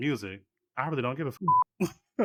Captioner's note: beep; laughing